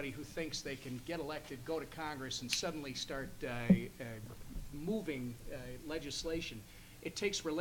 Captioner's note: snaps fingers